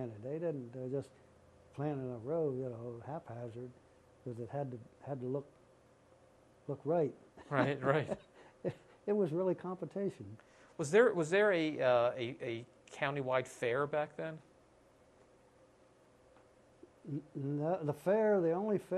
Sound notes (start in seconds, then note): 7.4 laughter